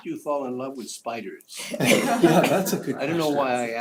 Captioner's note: laugh